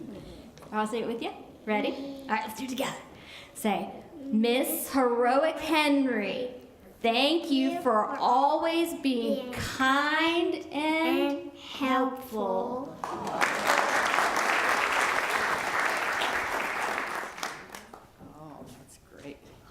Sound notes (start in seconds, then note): 15.7 applause